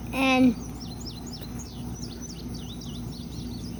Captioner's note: birds chirping